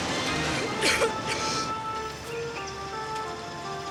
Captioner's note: Jane coughs